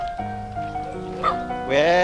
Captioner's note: dog barks